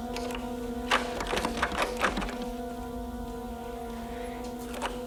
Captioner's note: door handle rattling